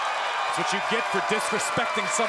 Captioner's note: crowd cheering